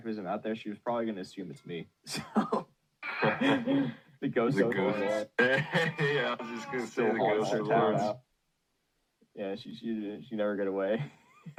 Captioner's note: laughs